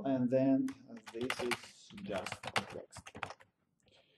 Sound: typing

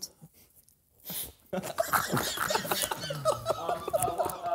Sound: laughing

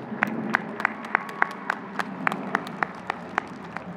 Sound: audience clapping

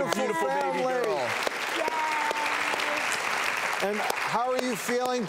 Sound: applause

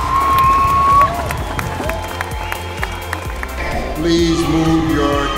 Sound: cheers and applause

